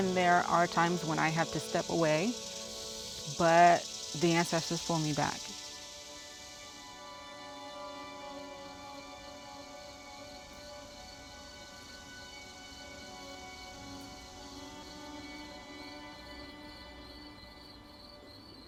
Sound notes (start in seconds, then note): 9.2 birds chirping; 9.2 solemn music continues